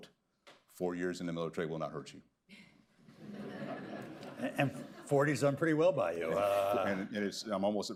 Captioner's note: laughter